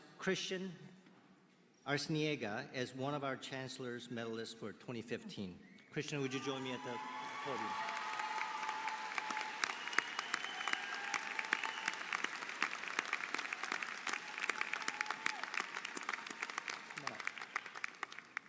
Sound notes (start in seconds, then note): 3.5 applause